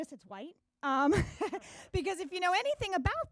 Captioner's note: laughing